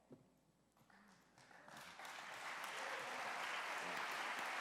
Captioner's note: applause